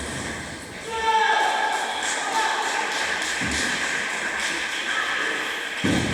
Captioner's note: applause